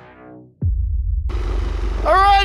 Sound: machinery engine revs

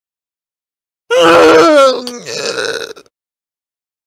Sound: sound of male death

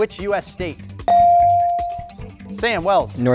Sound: bell dings

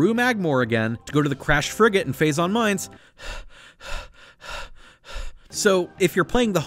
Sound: stops and catches breath

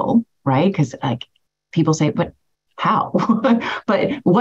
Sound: laughs

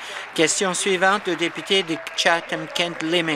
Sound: applause

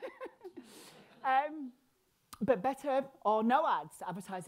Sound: laughing

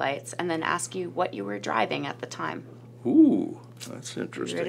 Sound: none

